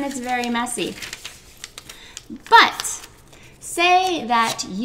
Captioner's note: paper crunches